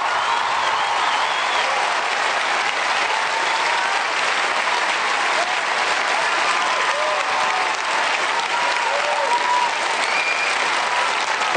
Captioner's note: cheers and applause